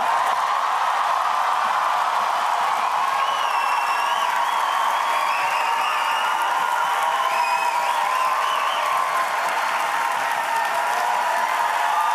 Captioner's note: cheering